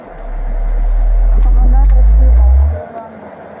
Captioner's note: speak in Foreign language